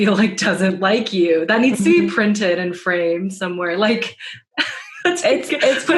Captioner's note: laughter